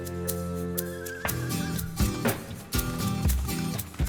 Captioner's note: horse neighing